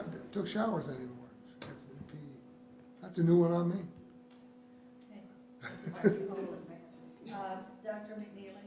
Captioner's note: laughter